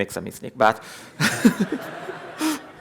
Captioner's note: laughter